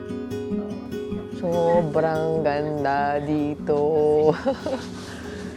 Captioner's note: laughs